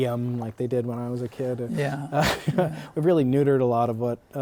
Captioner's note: laughter